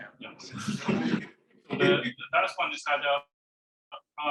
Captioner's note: class laughing